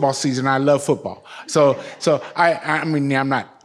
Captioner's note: audience laughs